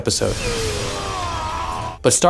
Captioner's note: dire scream